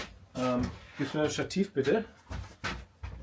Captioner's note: speaks German